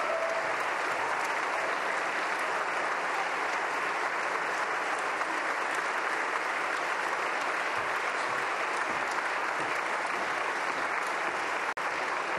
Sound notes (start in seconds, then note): 0.0 applause